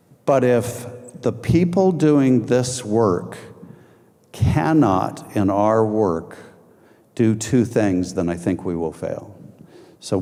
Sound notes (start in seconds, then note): none